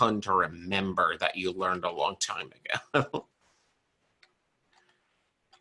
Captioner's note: chuckles